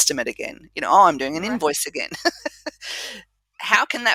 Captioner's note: laugh